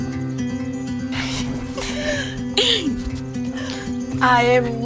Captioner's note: laughs